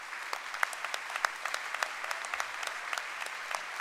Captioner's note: applause